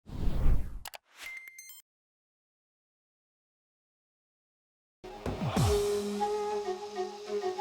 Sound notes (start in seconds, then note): 0.8 clicks; 5.2 techno music